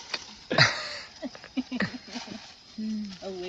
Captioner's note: laughter